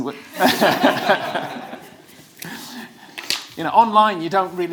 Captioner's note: audience laughs